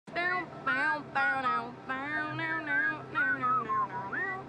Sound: whistling

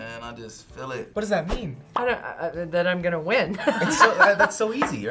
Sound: laughs

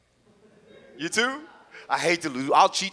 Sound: audience chuckles

